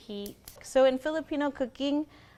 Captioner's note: igniter clicks